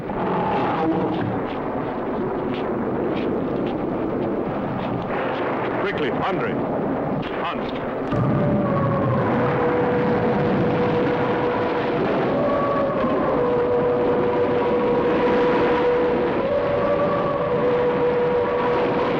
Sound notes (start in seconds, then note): 9.4 siren wailing